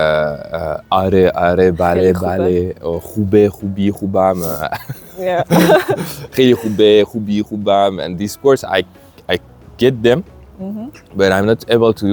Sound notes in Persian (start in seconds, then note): 4.5 خنده